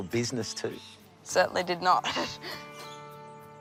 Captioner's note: laughs